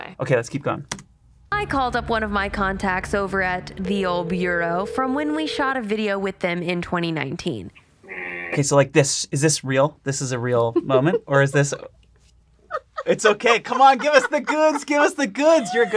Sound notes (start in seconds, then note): 12.6 laughing